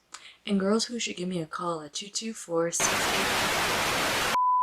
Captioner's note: static